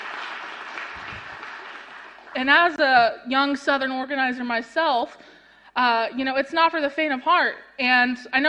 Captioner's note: applause